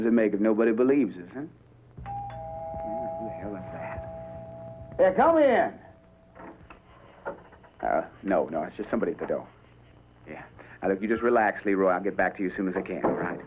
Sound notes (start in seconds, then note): 2.0 doorbell ringing